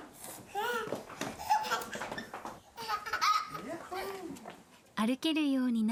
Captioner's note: laughter